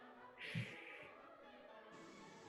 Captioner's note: sighs